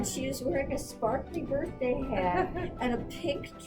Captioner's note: laughs